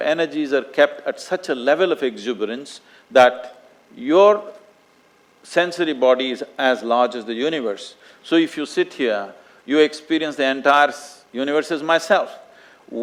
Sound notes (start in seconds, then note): none